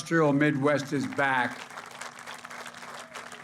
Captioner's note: applause